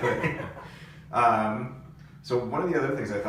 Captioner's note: all laugh